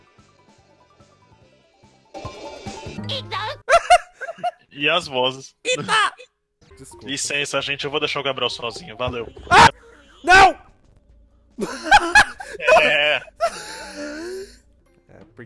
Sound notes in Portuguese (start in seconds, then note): 11.6 Risos